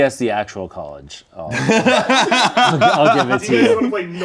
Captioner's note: laughs